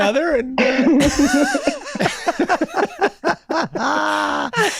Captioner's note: all laughing